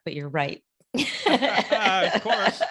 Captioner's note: laugh